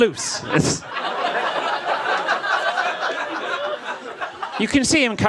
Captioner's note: audience laughs